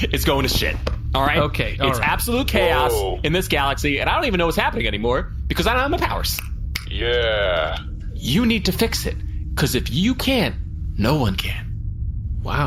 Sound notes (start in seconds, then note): 6.7 snaps